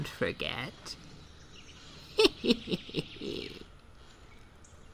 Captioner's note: rocking chair + forest sounds fade out